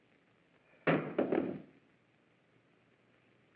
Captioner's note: thud